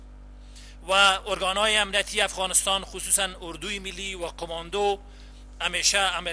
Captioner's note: translator speaking in foreign language